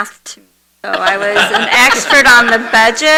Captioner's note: everyone laughs